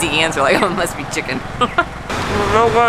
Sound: giggles

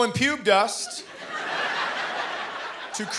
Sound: laughter

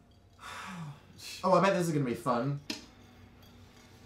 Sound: sighs

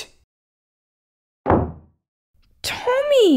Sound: slam!

